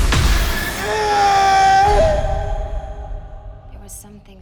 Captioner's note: Stone screams